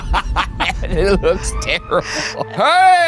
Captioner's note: both laughing; laughs